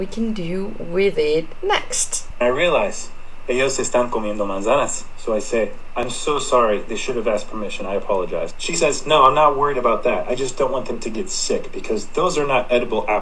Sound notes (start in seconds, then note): 3.4 speaking Spanish